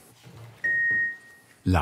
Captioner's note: beeping